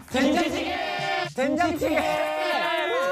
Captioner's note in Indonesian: Berteriak doenjang jjigae sendirian